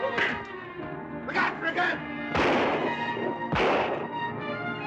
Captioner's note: gunshots